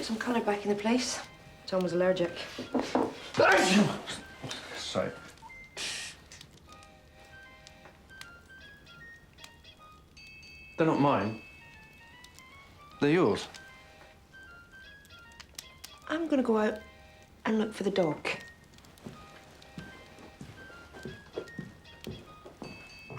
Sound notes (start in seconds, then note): 3.4 sneezing; 5.7 headphones music playing; 19.0 headphones music playing